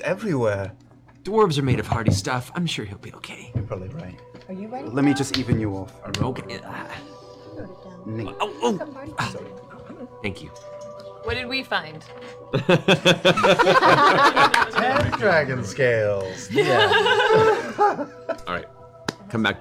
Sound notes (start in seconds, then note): 7.4 pained; 12.5 laughter